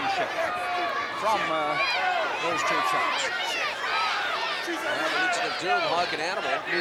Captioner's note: crowd clamoring